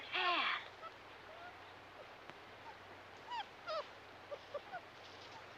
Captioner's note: puppies whimpering